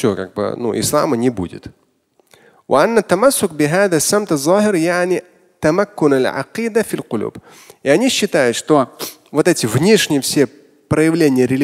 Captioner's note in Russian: Говорит на арабском